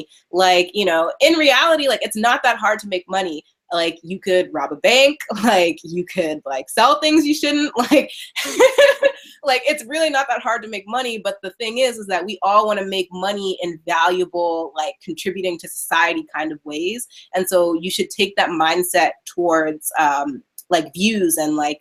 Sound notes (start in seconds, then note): 8.3 laughing